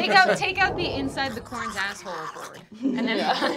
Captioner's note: snarling; laughing